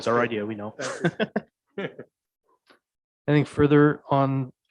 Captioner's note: chuckling